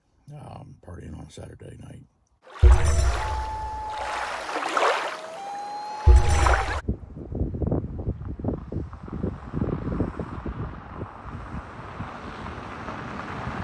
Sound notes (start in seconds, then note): 2.5 rushing water, loon calling